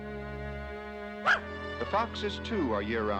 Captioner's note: barks